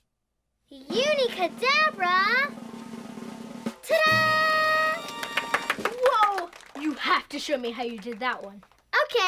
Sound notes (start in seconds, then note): 0.8 drum roll; 4.8 musical florish; 6.6 applause